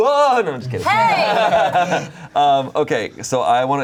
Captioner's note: everyone laughing